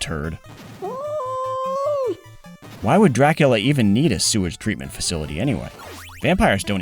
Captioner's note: yowl